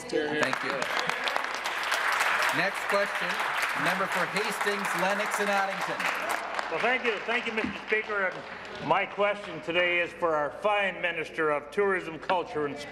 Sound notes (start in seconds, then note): 4.7 applause